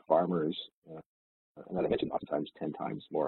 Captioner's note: audio distorts